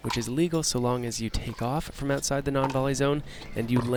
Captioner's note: none